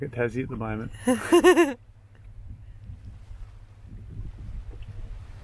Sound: laughs

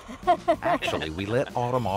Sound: laughs

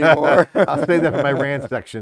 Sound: laughter

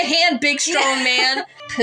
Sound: laugh

